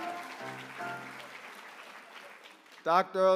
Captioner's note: applause